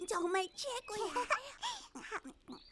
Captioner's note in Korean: 웃음소리